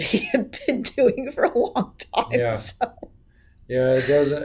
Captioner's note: laughs; laughs